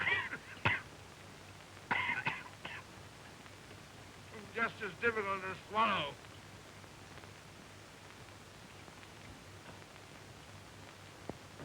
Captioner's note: coughing